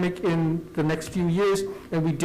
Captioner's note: none